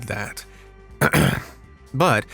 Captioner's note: ahem